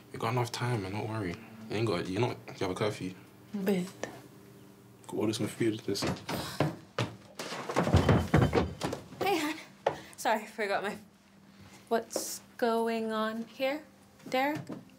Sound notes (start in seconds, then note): 1.7 speaking in foreign language; 5.6 footsteps plodding; 6.9 body thudding